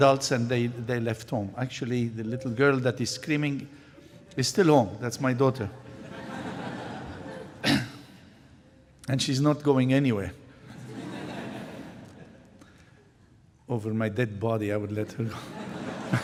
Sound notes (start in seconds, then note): 5.8 laughter; 10.6 laughter